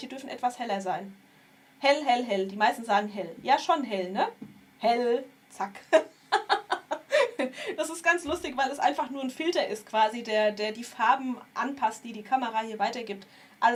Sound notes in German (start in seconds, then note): 5.8 gelächter